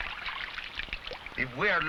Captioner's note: water splashing